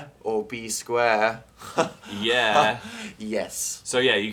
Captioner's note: laughs at pun